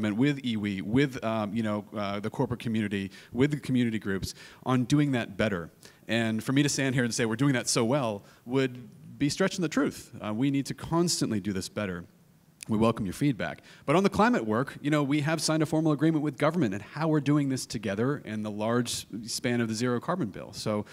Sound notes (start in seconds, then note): none